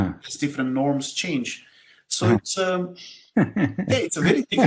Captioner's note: laugh